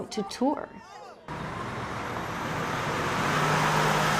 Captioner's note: bus engine